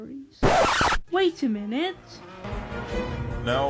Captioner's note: record scratch